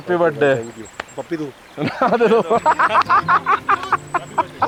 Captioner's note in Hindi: हंसी